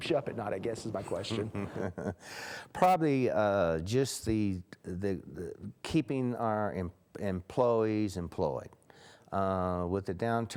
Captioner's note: laugh